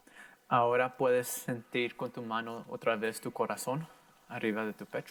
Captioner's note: in foreign language